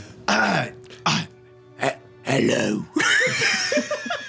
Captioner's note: raspy voice